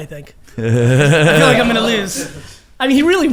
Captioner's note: laughs